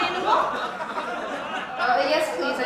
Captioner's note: crowd laughing